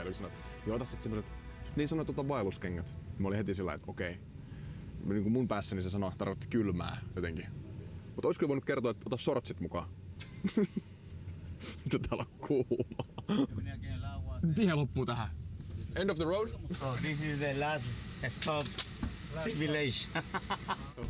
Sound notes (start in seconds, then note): 11.6 laugh; 20.1 evil laugh